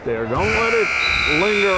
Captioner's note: buzzer buzzing